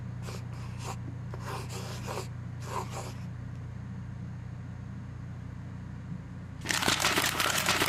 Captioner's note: pencil scritching; paper tear and crumpling